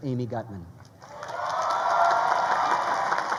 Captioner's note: crowd cheering